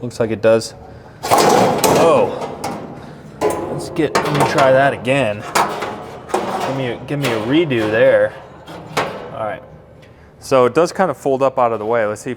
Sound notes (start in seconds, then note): 1.8 metal clanking